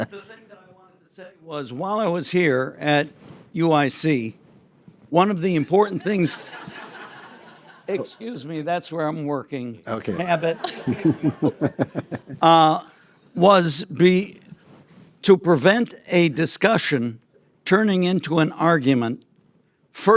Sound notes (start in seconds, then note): 0.0 group chuckles; 6.0 audience laughs; 10.2 audience chuckles